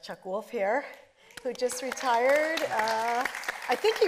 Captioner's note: audience applauding